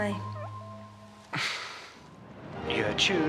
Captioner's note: guffaws